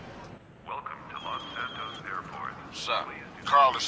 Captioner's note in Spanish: Suena el teléfono